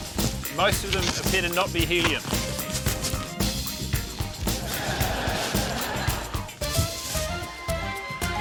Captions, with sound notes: - Most of them had better not be helium. (LAUGHTER)